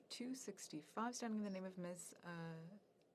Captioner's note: speaking french